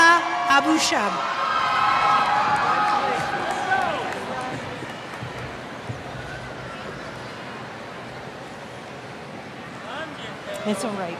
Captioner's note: cheers